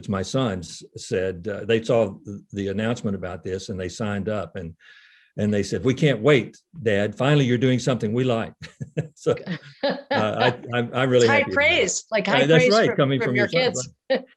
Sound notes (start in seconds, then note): 8.4 laughs; 9.3 laughing